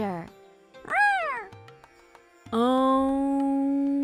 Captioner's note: Joy meows